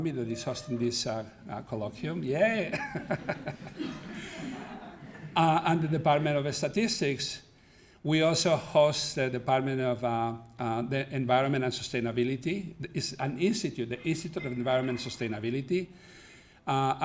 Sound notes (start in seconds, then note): 2.6 laughs; 4.7 audience laughing